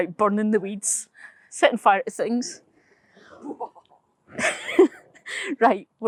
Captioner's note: laughs